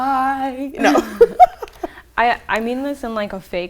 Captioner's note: laughs